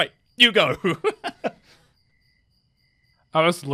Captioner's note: laughs